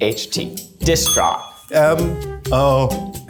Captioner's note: bell rings